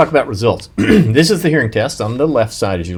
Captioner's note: clears throat